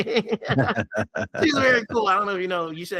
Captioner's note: laughing